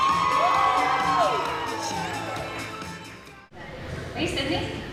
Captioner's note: audience applauding